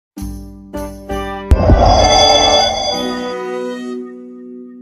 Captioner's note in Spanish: Sonido de Teletransportacion